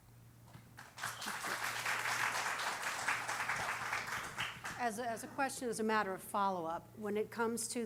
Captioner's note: applause